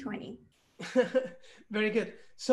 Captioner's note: chuckles